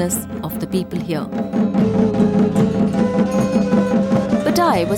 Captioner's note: intense drumming; bell jingling